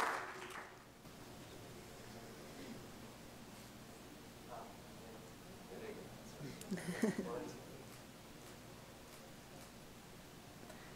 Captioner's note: applause